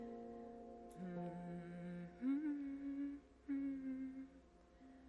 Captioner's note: Hatshepsut hums